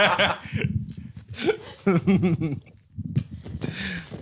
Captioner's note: laughing; giggling